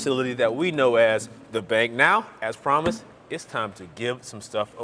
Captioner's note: none